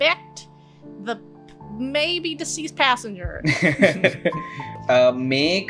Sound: laughter

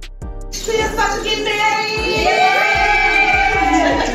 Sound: cheers

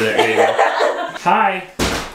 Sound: laughter

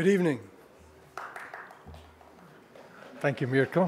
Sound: one person clapping

